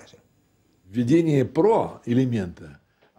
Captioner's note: speaking Russian